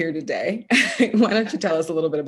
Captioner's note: laughs